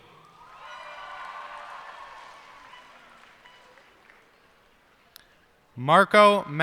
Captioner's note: cheers and applause